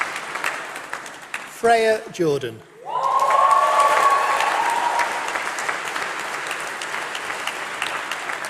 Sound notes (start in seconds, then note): 2.8 applause